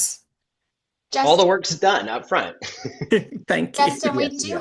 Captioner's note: chuckles